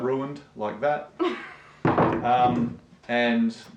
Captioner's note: laughs